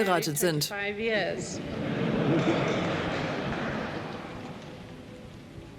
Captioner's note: people laughing